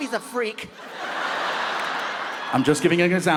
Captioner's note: audience laughs